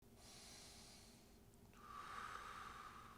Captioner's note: man inhaling; man exhaling